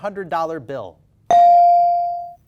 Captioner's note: bell dings